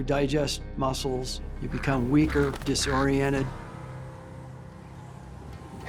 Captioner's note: raven squawking